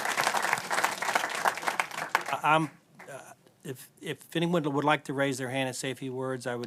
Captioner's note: applause